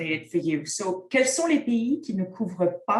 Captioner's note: content in French